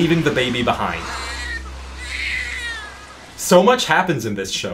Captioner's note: baby cying